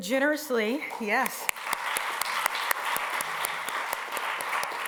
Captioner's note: applause